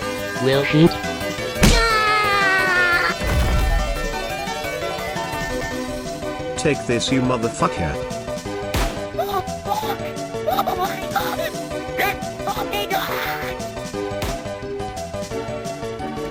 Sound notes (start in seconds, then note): 1.6 Noo-Loo Screaming